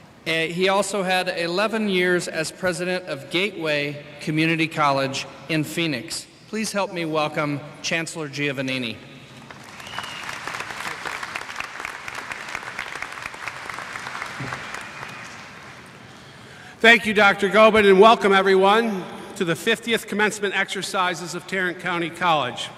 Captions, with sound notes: He also had 11 years as president of Gateway Community College in Phoenix. Please help me welcome Chancellor Giovannini. [ Applause ] >> Thank you, Doctor Goben, and welcome everyone to the 50th commencement exercises of Tarrant County College.